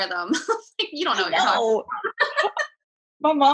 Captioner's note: laughing